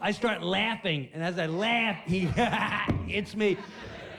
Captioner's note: laughs